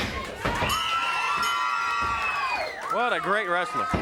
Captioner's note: hands thudding; bell ringing; crowd cheering